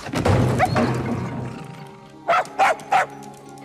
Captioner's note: clattering; whimpering; barking